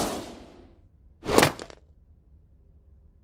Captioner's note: swoosh!; basket thuds